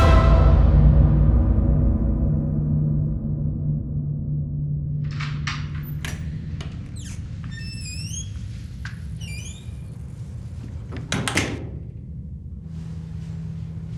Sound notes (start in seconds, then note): 0.0 ominous music; 7.0 door creaking; 10.6 door closing